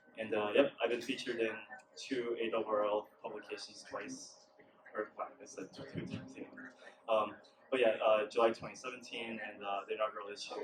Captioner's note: mumbles nervously